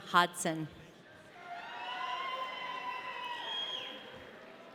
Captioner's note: audience cheering